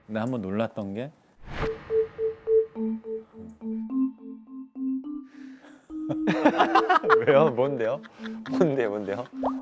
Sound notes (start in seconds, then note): 6.2 laughing